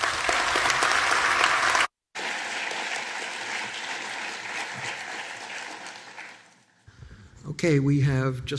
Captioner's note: applause